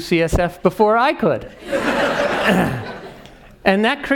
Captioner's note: laugh